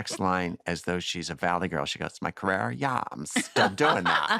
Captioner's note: valley girl accent; laughter